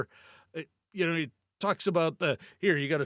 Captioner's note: none